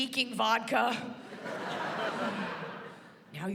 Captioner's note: laughter